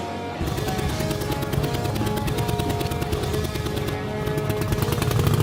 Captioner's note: motorcycle engine roars